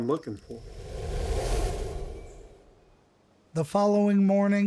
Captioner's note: air shuttering